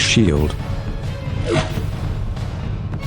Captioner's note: transition sound